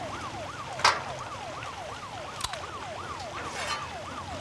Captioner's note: metal clanks